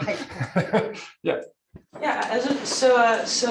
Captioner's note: laughs